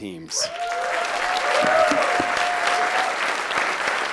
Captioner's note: applause